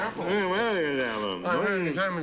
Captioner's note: mumbling